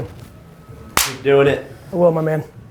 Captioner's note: clapping